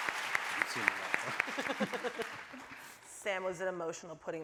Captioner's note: audience cheering; voice muffled